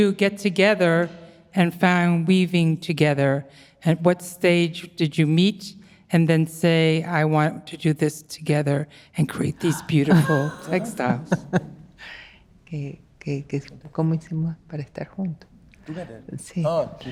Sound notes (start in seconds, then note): 11.4 laughing; 12.8 speaking Spanish